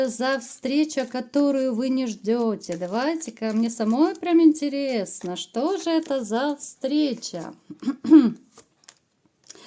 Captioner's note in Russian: кашель